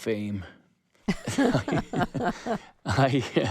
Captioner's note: laughter